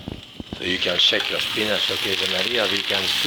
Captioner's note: spinach sizzling